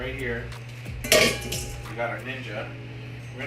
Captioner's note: dish clatters